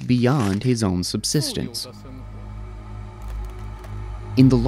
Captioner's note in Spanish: el hombre habla débilmente